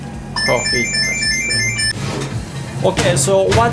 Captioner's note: phone bell